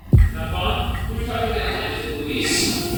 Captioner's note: indistinct voices chatter; faint whisper echoes